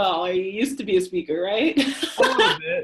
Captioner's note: laughs